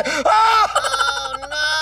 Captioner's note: Screams